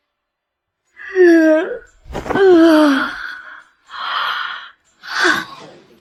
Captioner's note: sound effect